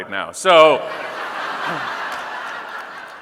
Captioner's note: audience laughing